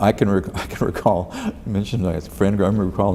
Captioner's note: laughs